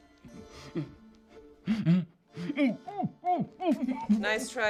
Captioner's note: Frank gasps for air